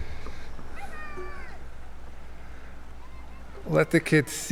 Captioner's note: boy yelling delightedly